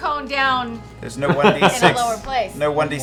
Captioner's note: laughs